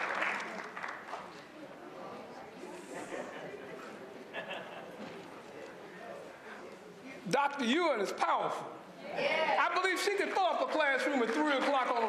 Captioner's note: applause